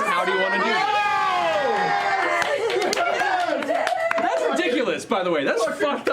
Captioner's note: cheering